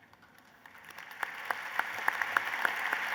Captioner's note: applause